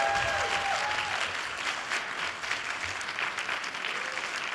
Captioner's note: applause